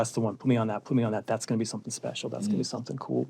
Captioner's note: none